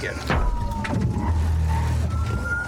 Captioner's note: thuds